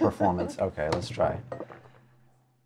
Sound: die clatters

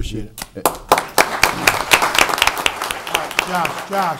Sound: audience applauds

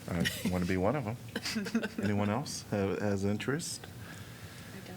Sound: laughter

